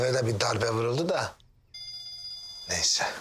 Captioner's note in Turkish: Telefon çalıyor